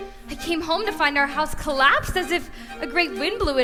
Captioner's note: none